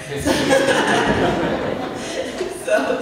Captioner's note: laughter